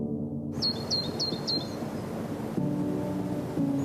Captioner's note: birds chirping